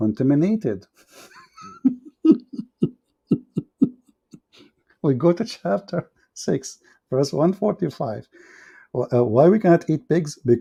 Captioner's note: Ketawa